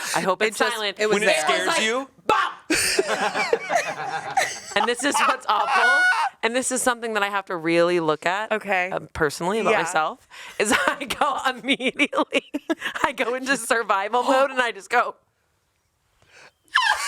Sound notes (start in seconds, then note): 2.7 everyone laughs; 12.3 laughs